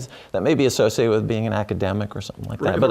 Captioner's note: laugh